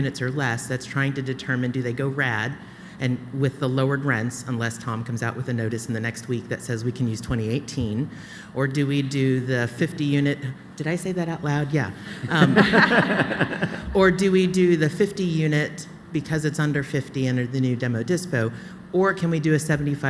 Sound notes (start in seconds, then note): 12.1 laughter